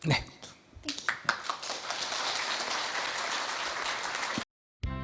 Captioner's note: audience applause